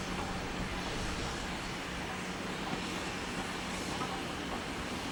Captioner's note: train passing